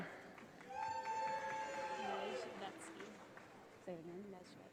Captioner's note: audience applauding